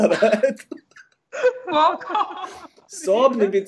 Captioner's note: laughter